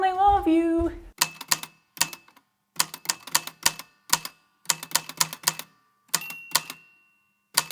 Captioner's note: singing; the typewriter clicks and clacks away, with dings here and there